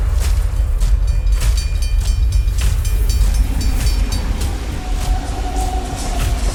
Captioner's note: train track signals